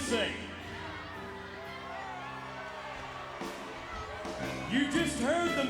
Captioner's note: audience chattering